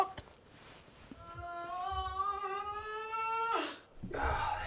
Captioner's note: groaning